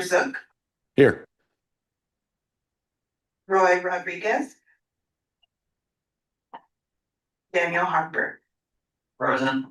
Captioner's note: pause